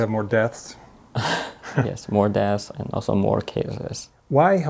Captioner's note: laughs